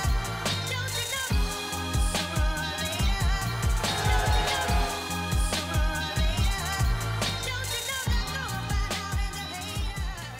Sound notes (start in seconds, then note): 3.5 cheering; 5.3 upbeat hip hop music